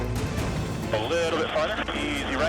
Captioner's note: man Over Radio